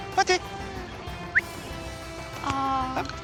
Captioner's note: grange whistles